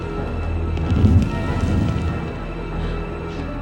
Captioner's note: flames roaring